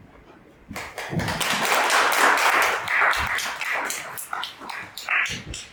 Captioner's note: applause